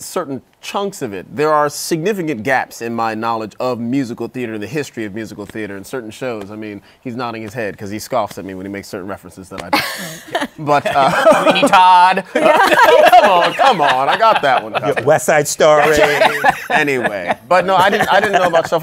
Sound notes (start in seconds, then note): 9.8 laughs; 12.2 laughter; 15.7 laughs